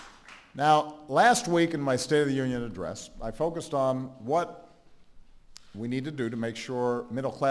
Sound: applause

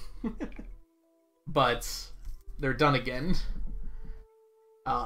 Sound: chuckles

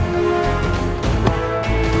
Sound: car door closing

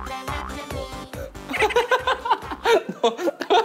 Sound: laughing

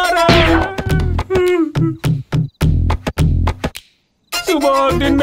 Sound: crying

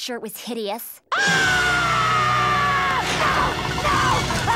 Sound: screaming

